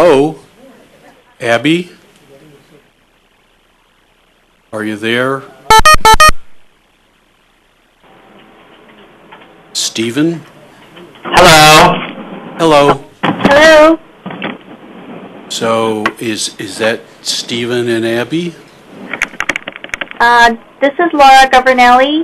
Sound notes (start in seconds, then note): 5.6 beeping